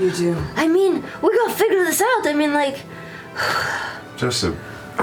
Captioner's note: sighs